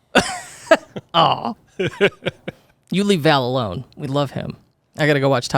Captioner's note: laughs